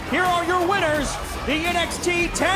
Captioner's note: bell ringing